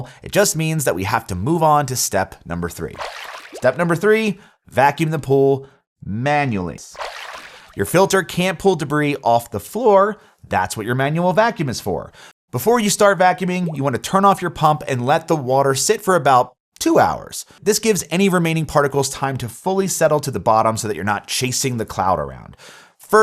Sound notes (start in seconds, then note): 6.9 water whooshing